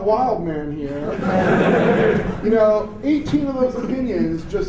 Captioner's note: laughter